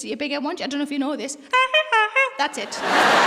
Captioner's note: honks like a clown's horn; laughter and applause